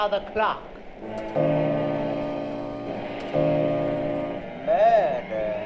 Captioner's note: clock chimes